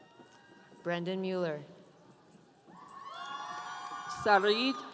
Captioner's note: audience cheering